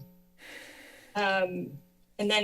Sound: exhales

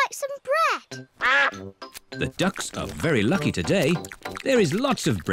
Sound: quacks

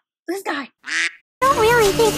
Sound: quack

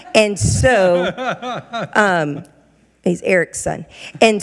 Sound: laughing

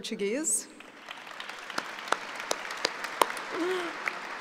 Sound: applauding

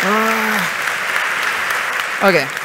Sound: applause

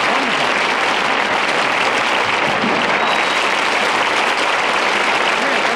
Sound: audience applauds

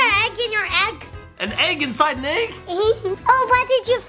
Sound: giggles

